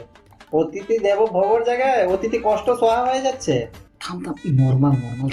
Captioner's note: speaking in bengali